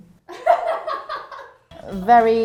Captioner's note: laughing